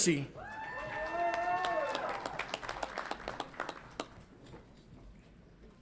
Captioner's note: audience applauds and cheers